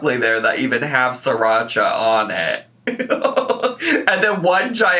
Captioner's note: laughs